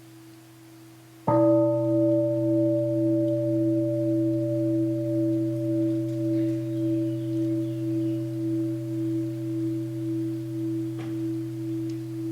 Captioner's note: third sound of the bell